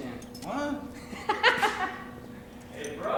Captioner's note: laughs